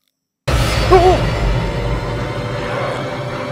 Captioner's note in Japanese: 効果音